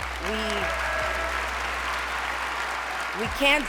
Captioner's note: cheering